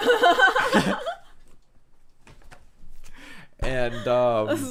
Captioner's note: laughing